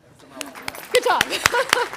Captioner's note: audience applauding